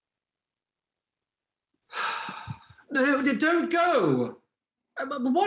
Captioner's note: Helmer sighs